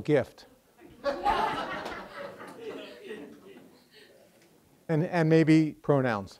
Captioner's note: students laughing